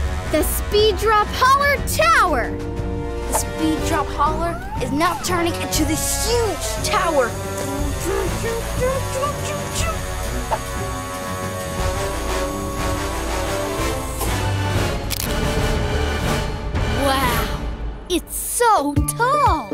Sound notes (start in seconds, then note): 7.5 building noises; 10.5 dramatic music